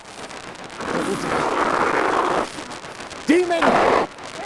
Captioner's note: demon snarling